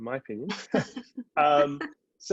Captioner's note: laughing